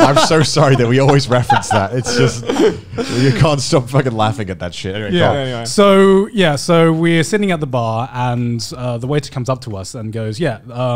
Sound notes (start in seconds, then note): 2.8 men laughing